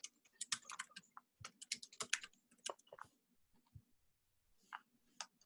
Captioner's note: keyboard clatters